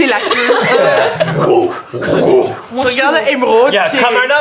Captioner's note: vocalizes heavy whipping sound